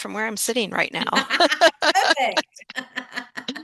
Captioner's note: laughter